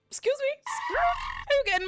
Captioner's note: record scratch